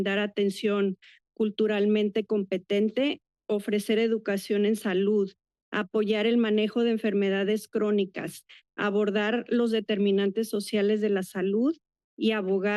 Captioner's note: foreign language